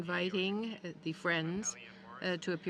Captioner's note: speaking French